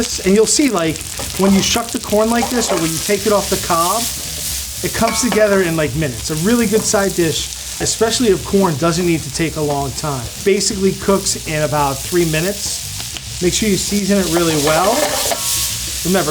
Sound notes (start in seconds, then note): 3.6 food sizzles; 4.8 pan clinks; 14.2 pan rattles; 14.9 food sizzles